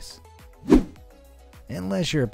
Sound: air whooshing

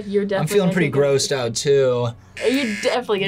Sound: buzzer rings

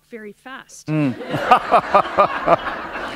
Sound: laughter

